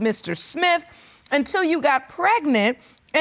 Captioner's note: none